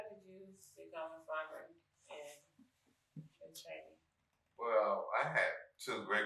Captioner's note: speaking faintly